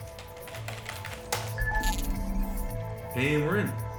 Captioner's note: hard keystroke; access chime